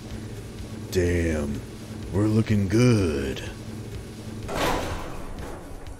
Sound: duke nukem voice

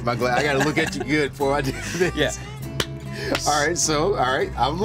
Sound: laughs

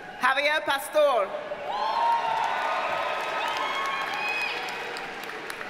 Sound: audience cheers and applauds

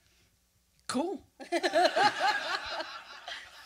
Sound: laughter

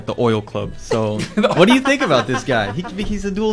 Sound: laughter

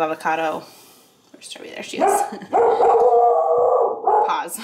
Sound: Trevi barks

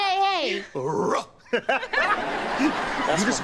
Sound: laughing

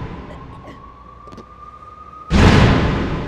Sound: choking; distant sirens blaring; suspenseful music

